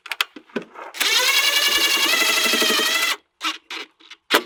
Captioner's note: drilling